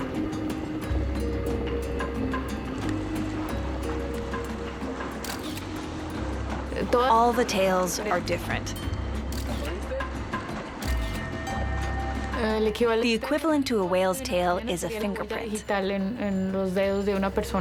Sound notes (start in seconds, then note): 5.2 camera shutter clicking; 9.3 camera shutter clicking